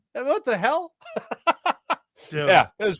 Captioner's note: laughing